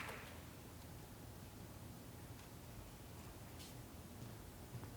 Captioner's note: feet shuffling